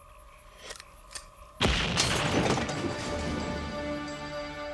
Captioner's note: explosion